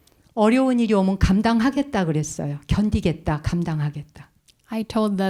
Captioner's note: speaking in Korean